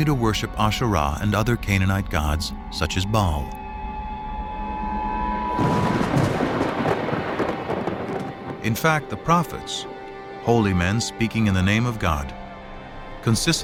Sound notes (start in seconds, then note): 5.5 thunderclap